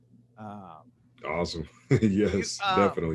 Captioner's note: chuckles